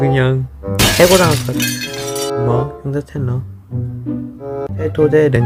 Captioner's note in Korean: 쨍그랑